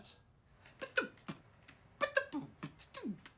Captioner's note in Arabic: بيتبوكس